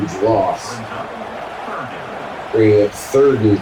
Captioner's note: crowd Noises